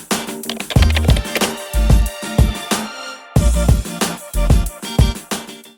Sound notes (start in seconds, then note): 0.4 typing; 2.4 upbeat music